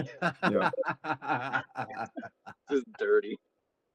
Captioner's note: laughing